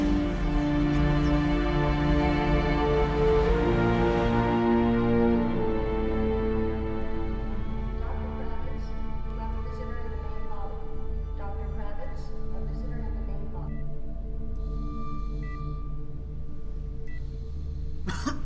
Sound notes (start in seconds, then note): 8.6 medical Equipment beeps; 18.0 Minty coughs